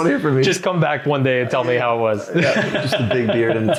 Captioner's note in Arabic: يضحك